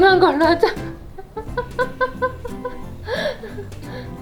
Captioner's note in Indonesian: tertawa